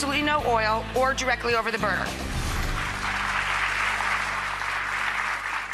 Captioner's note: crowd applauds